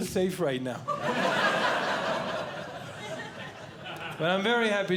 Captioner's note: audience Laughing